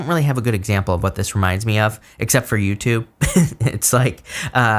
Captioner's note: chuckles